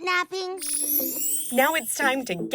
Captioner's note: chime